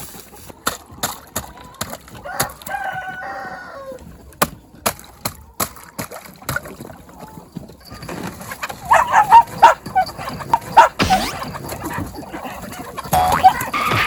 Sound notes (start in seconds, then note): 8.8 barking